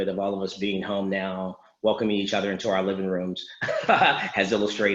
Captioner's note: laughs